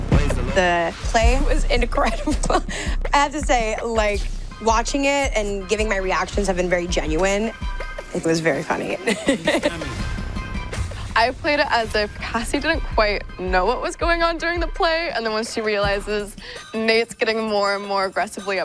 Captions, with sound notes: The play was incredible. I have to say, like, watching it and giving my reactions have been very genuine. It was very funny. (CHUCKLES) I played it as if Cassie didn't quite know what was going on during the play. And then once she realizes Nate's getting more and more aggressively upset,